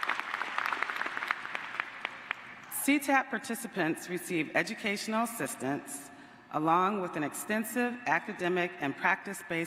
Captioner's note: applause